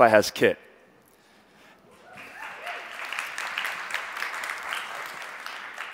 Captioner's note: audience applauds